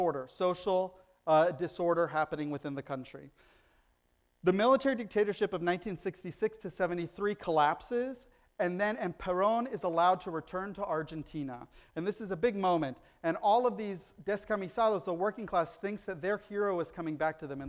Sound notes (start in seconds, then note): 14.0 foreign language